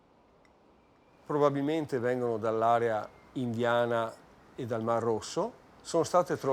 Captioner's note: speaking in foreign language